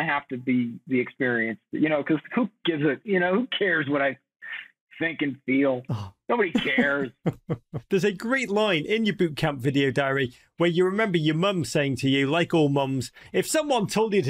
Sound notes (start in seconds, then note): 6.5 chuckles